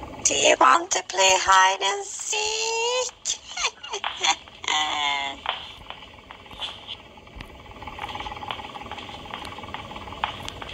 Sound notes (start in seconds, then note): 3.1 laughing wickedly